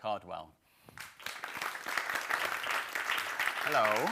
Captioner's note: audience applauding